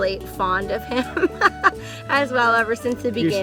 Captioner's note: laughing